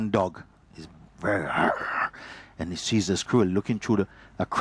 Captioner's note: growling